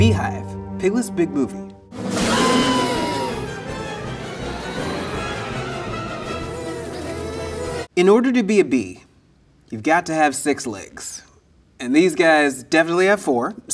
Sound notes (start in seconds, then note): 2.2 bird screaming; 3.2 bees buzzing; 3.5 suspenseful music